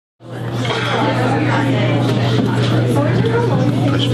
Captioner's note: audience chattering